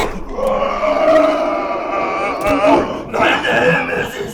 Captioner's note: Jacob grunting; ominous boom; Jacob screaming